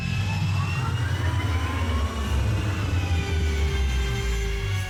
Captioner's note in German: Ferengi-Antrieb dröhnt